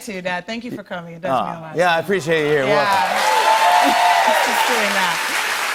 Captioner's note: cheers and applause